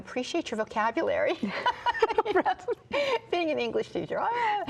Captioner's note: both laugh